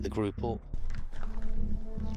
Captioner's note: footsteps